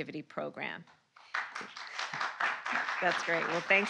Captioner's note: applause